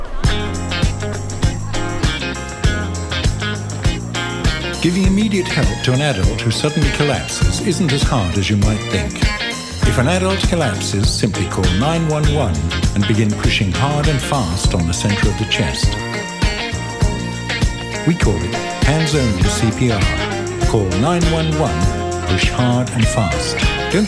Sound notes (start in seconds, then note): 0.2 upbeat music; 4.9 voiceover